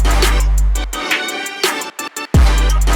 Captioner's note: none